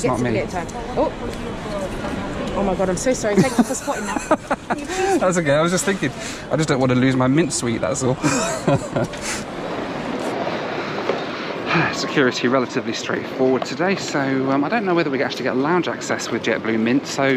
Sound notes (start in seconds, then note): 3.3 both laugh; 7.9 laughs